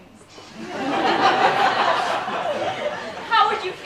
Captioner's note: laughter